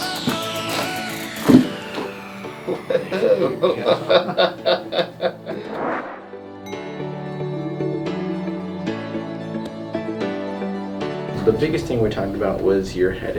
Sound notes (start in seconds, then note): 2.6 patient laughs